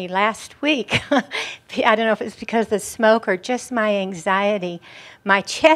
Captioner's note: she chuckles